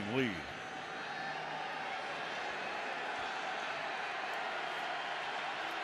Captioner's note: crowd clamoring